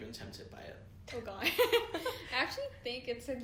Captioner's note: giggles